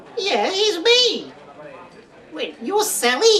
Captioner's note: none